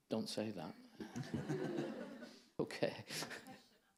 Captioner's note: audience laughing